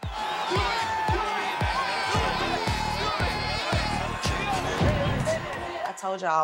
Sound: crowd continues cheering; song ends

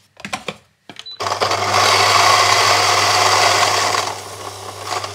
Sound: grinder engine roars

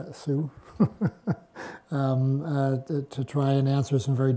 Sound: laughs

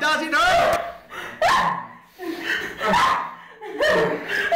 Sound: Linda yelps

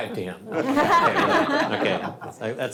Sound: all laugh

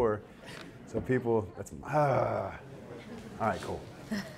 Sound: audience laughter

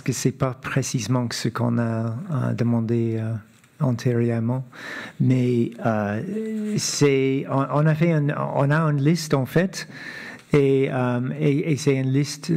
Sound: speaking French

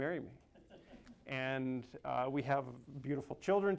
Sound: crowd laughing

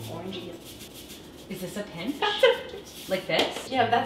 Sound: chuckles

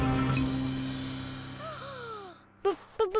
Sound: gasps

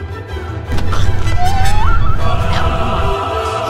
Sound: strangling noise

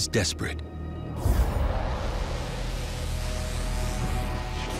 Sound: buzzing

